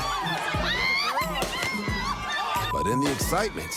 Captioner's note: people cheering, laughing